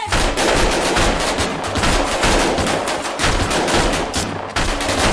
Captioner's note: gunfire